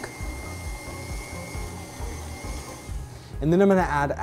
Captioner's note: mixer whirring